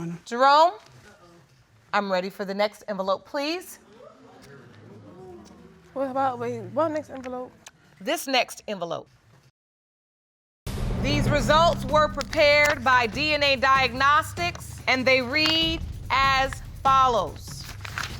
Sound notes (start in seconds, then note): 3.9 audience murmuring; 5.6 stammering